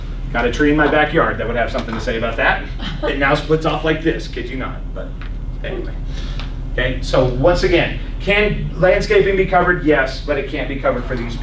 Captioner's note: laughs